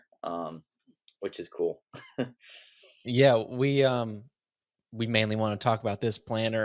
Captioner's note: laughs